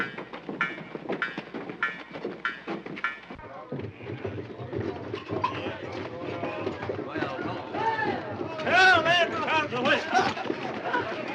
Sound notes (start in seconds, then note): 3.5 overlapping chatter